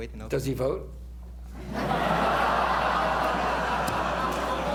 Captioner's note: laughter